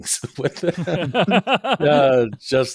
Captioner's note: all laughing